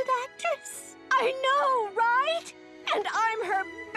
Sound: crying

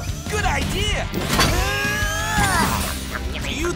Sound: grunting

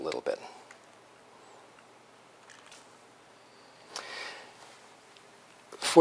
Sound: pause

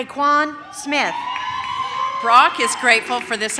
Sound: audience cheers

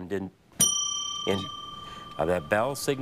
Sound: bell dings

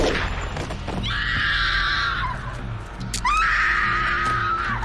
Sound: screaming

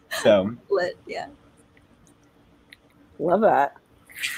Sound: laughing; vocalizes

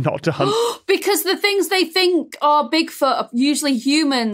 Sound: gasp

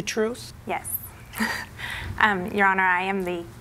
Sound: chuckles

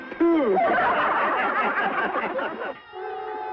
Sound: laughing

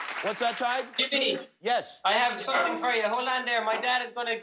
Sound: applause

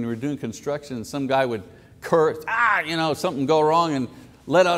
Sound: cries out

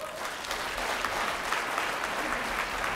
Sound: applause

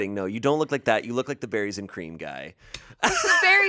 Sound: laughs

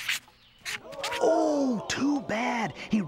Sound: crowd gasps

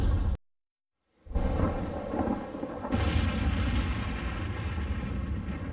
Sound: rain and thunder sounds

